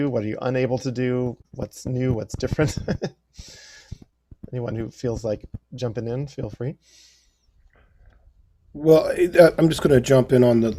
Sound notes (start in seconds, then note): 2.6 laughter